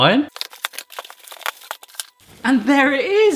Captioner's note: rustling